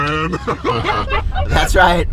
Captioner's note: laughing loudly